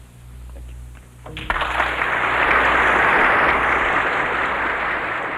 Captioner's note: applause